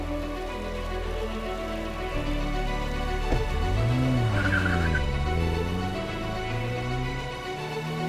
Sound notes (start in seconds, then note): 2.1 car revving